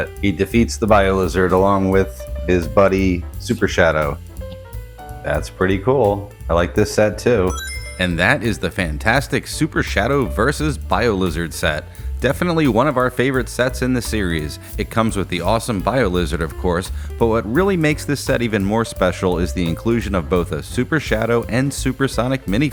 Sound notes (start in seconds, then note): 7.5 Sonic Ring Chime